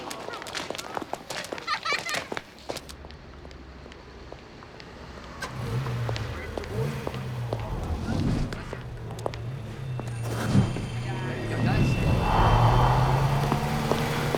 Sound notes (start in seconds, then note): 4.8 car engine rumbling; 8.8 eerie music